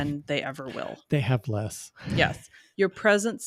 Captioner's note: chuckles